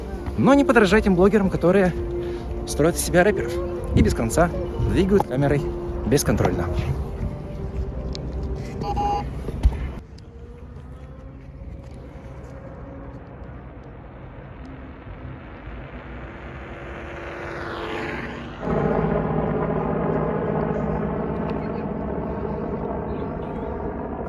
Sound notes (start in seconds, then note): 8.8 sound of stabilizer error; 13.5 sound of wheels and sound of an electric scooter; 18.4 sound of a helicopter